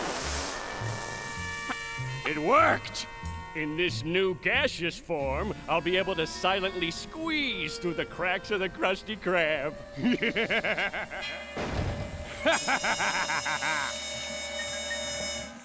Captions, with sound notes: It worked. In this new gaseous form, I'll be able to silently squeeze through the cracks of the Krusty Krab. [laughing]